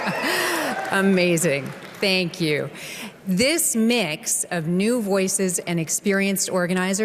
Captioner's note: cheering